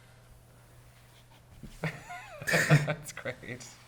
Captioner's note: people laugh